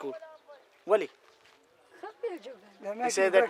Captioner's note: speaks in foreign language